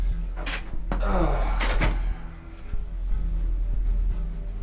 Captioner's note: Chris groans